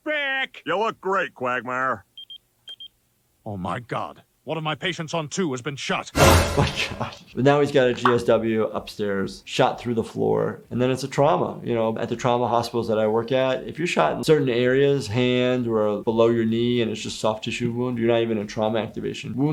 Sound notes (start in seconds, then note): 2.2 beeping; 6.2 dramatic music